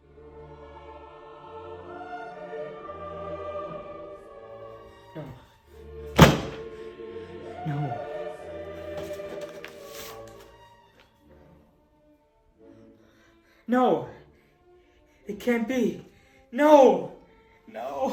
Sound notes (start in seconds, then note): 6.2 thump; 13.5 gasp